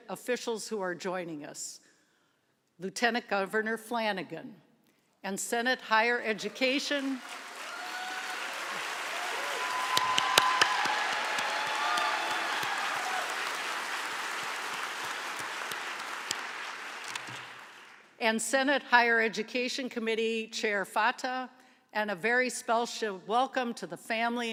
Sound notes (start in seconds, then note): 7.9 applause